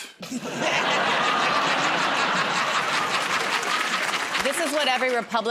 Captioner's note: laughter